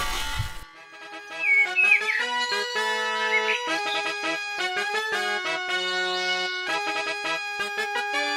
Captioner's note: fanfare; birdsong; fanfare